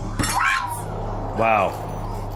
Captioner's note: hitting table and shouting